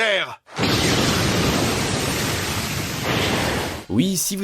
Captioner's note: explosion sound